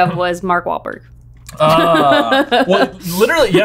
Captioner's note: laughing